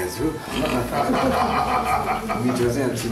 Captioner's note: laughter